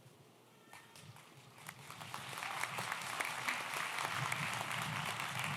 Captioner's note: audience applauds